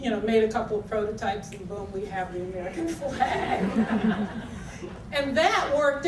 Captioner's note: audience laughter